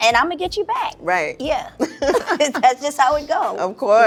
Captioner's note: laughing